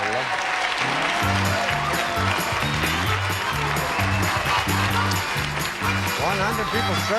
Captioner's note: audience applauding